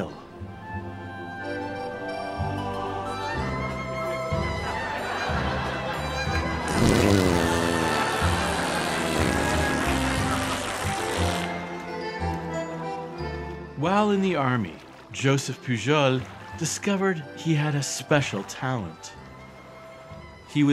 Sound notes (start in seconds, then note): 4.6 laughter